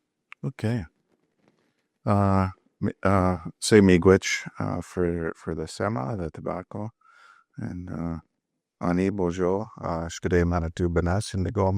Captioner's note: speaking indigenous language